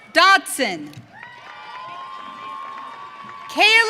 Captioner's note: audience cheering